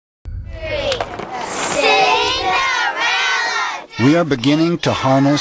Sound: children chant

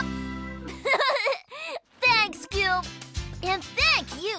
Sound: laughs

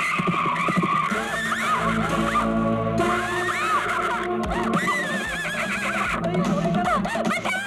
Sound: tires squealing; screaming; horse neighing

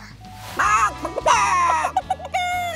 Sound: clucking

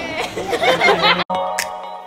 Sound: laughing

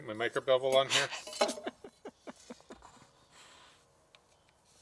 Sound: chuckles

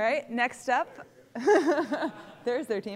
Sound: laughter

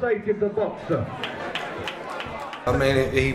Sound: clapping

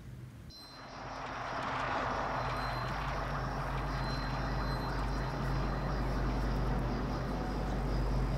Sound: car screeches. unnerving drone

